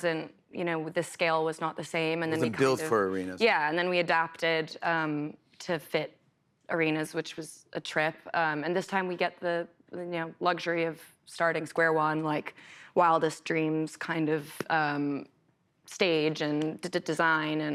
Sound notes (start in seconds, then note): none